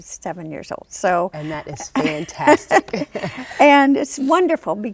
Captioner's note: laughs